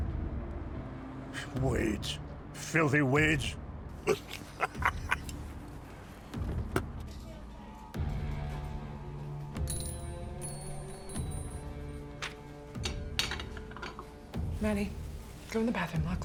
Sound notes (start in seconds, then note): 0.0 tense music; 4.0 drunkenly laughs; 6.1 tense music; 8.0 door opens, bells jingle